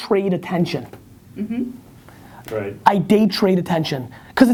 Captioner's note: voiceover